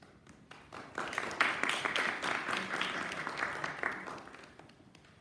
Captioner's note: applause